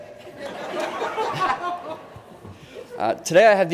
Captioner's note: laughter